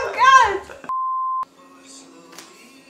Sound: long beep; soft, acoustic music

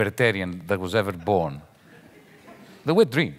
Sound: audience laughing lightly

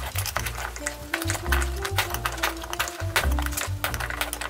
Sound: metal clinking

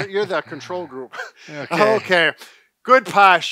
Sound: laughing

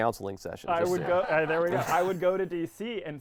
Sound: laughing

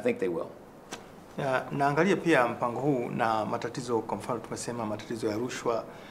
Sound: speaking in swahili

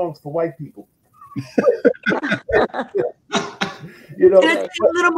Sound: all laughing

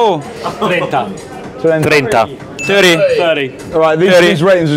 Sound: speaking Italian

